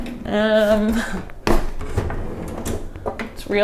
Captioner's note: laughs